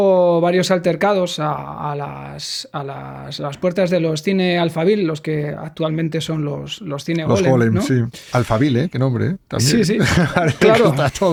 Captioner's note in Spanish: Risas